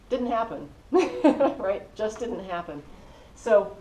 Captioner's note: laugh